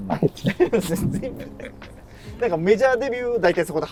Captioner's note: laughing